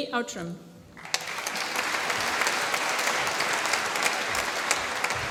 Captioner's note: applause